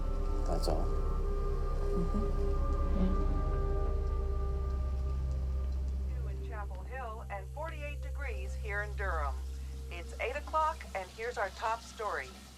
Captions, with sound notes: That's all? Mm-hm. Yeah. [woman over radio] ...and 48 degrees here in Durham. It's eight o'clock, and here's our top story.